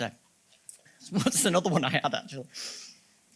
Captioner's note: laughing